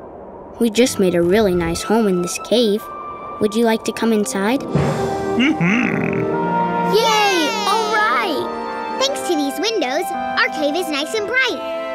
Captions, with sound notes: We just made a really nice home in this cave. Would you like to come inside? Mm hmm! [cheering] Thanks to these windows, our cave is nice and bright.